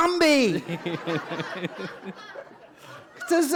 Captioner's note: laughter